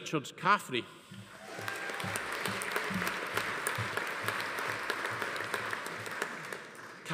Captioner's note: attendees cheering; audience applauding